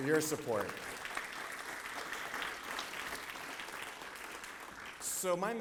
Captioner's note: applause